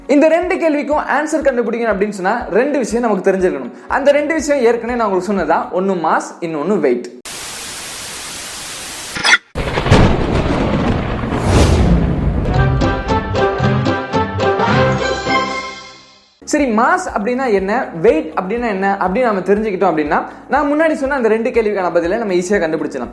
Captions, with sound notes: To find the answers for these two questions we should be aware of two things Those two are already mentioned by me One is mass The other is weight [signal scrambles] [thunder rumbles] [notorious music plays] LET'S LEARN WITH LOVE Okay! what is meant by mass? what is meant by weight? If we are aware of these two, we can answer the already mentioned two questions